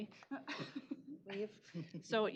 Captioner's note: laughs